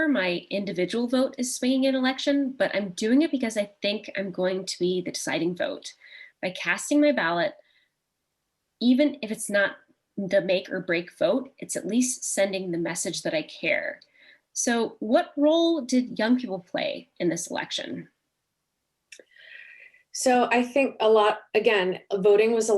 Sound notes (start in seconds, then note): none